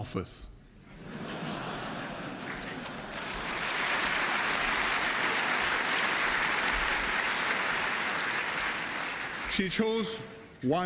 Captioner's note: laughter and applause